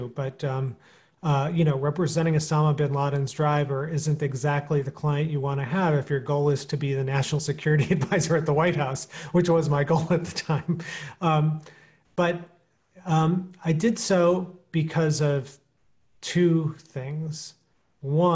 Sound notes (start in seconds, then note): 9.8 chuckling